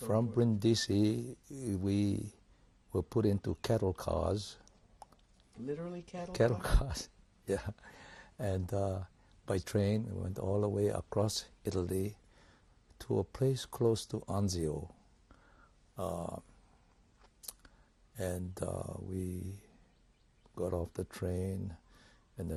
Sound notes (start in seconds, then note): 6.3 laughs; 14.7 pauses for 3 seconds